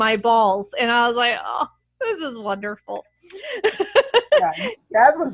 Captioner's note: laughs